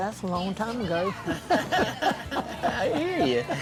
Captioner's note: everyone laughs